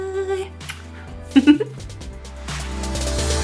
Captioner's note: giggles; upbeat electronic music